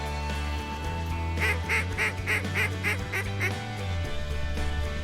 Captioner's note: duck calls